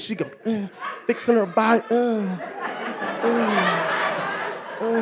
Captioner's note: singing; moans; moaning; audience laughing